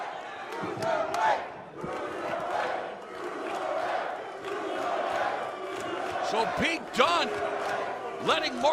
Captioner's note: crowd cheering